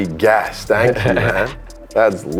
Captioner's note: laughs